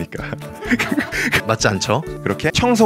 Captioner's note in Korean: 웃음소리